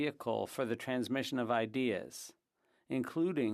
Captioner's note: speaking French